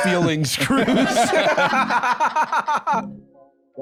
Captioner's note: all laughing